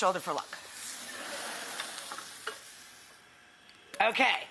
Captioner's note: crowd laughing